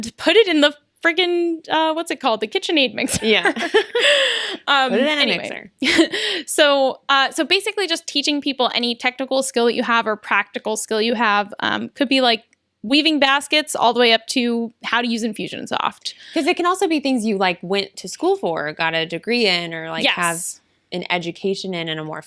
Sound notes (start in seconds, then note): 3.0 laughs